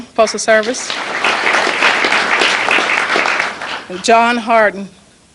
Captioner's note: applause